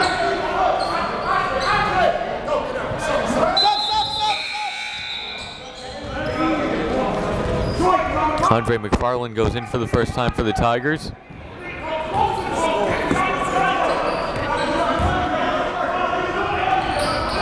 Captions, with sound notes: (whistle blows) (buzzer dings) Andre McFarlane goes in for the first time for the Tigers.